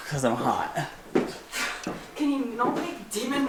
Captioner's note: footsteps